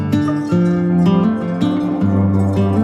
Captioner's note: gentle music continues; sheep bells clanging; dogs barks